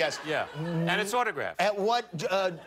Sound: laughter

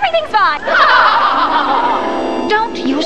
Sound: crowd laughter

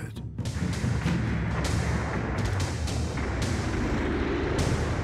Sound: explosions booming

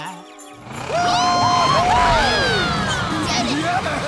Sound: cheering

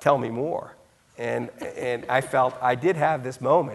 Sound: laughing

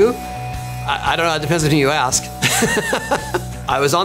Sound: laughs

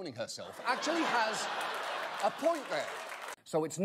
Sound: audience laughter

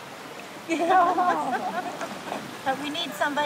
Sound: laughing

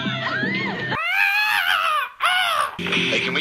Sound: girls scream uncontrollably; making bird noises; over radio

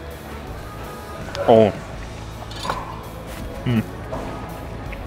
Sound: instructor moaning

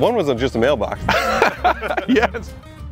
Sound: laughs

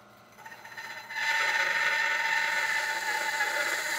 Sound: saw zings

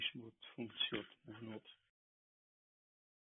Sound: Hebrew spoken

